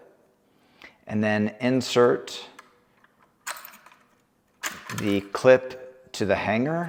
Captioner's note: parts clicking